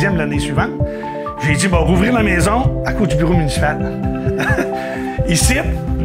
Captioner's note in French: rires